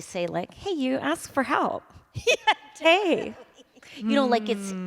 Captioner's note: valley girl voice